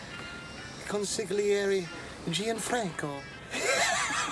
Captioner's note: pompous accent